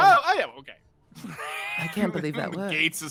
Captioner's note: wheezes